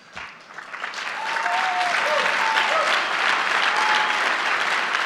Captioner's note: applause